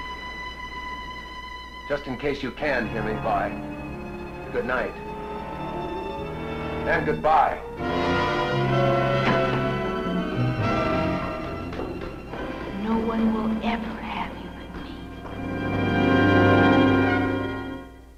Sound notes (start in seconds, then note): 7.6 tense dramatic music; 9.1 door slamming; 15.1 suspenseful music; 18.0 light jazzy music playing